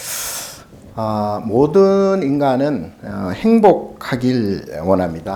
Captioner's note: speaking Korean